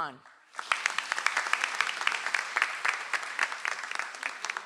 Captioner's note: audience applauds